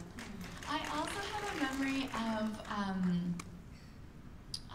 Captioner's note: applause